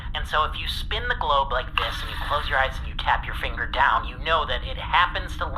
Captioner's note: spinning